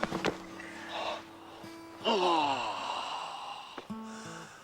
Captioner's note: gemidos